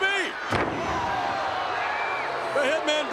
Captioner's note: crowd groans